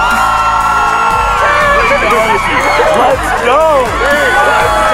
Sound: crowd cheers

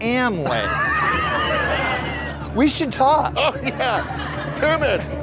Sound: laughter

